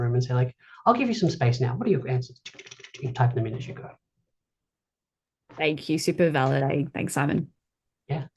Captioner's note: makes keyboard clatter noise